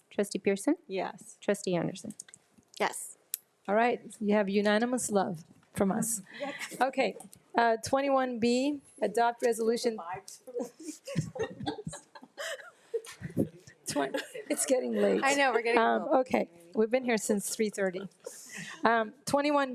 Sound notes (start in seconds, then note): 6.4 laughs; 10.1 trustee speaking faintly; 10.6 group laughs; 16.3 speaks faintly